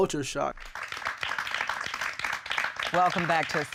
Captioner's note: audience clapping